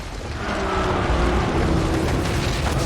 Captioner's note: creaking